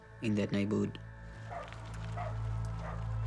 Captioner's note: barking